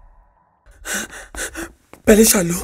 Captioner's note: Exhales sharply